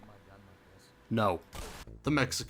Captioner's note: blam